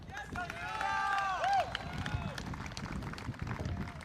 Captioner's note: audience cheering